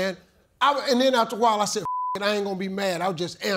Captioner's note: beep